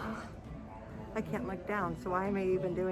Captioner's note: sighs